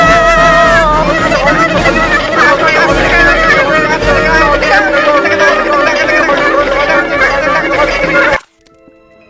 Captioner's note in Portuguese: Barulho de primatas desesperados